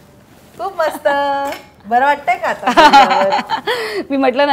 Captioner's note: Laughs